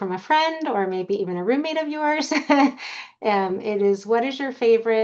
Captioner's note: laughs